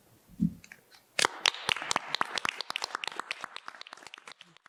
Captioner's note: applause